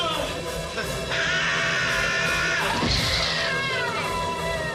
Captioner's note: screams; loud thud